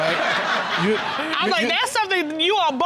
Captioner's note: all laughing